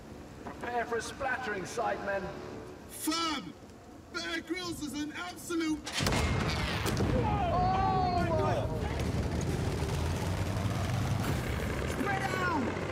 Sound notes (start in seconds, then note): 6.9 groans